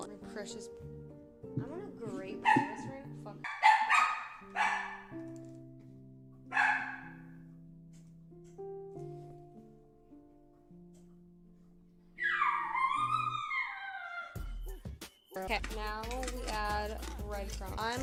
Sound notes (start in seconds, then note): 3.4 dog Barking; 3.4 dog Howling